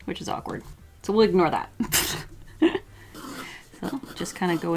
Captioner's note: laughs